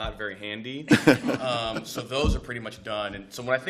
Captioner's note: laughter